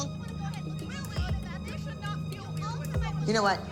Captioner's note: overlapping, distant yelling